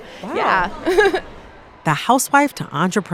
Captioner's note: laughter